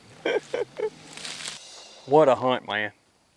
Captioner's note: laughing